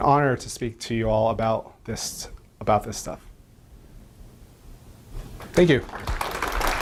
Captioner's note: audience clapping